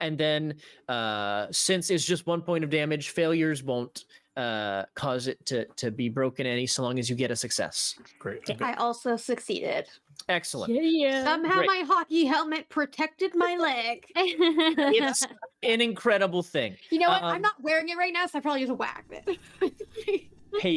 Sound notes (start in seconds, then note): 14.2 laughter